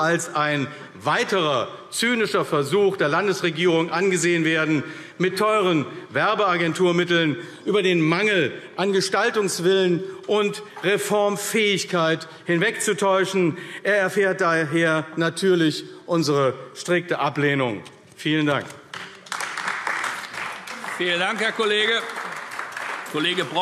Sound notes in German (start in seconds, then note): 18.8 Beifall AfD